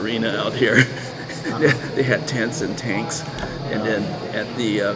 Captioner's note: laughs